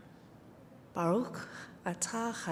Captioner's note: hebrew